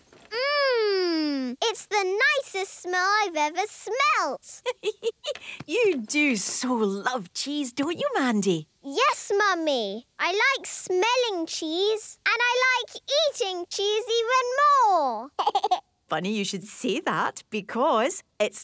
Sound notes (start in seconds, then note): 4.6 giggling